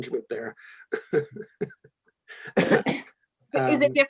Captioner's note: laughing